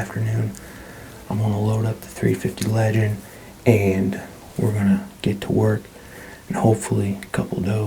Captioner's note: whispering